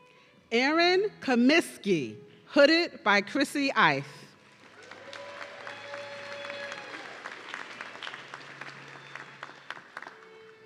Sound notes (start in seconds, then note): 4.7 audience cheering